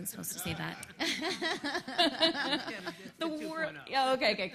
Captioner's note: laughs